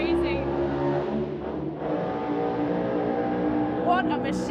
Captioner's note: revs fading